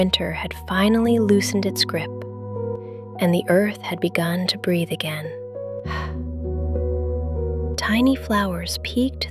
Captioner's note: exhales